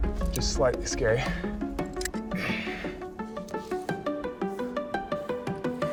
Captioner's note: Alex breathing hard